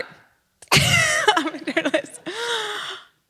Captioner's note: laughter